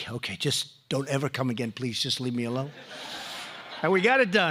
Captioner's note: laughter